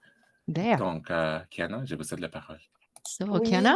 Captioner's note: speaking french